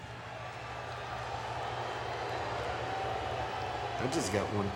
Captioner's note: crowd booing